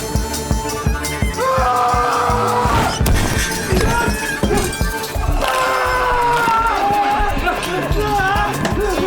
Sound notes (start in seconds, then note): 1.4 gangster shouting; 5.4 gangster screaming